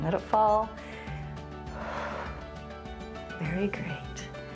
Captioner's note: inhales and exhales